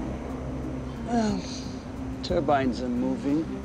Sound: sighs

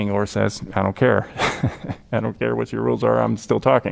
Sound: laughter

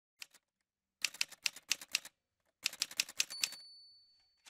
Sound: typewriter sounds

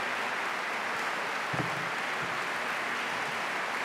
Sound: applause

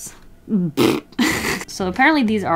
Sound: blows raspberry, laughs

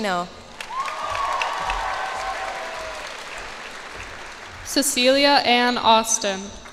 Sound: cheers and applause

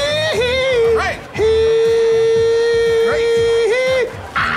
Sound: cheering

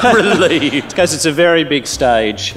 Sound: laughter; laughs

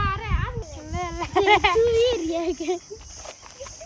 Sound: laughter

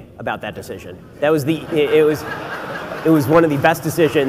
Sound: audience laughs

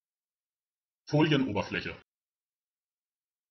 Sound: fast Pronunciation

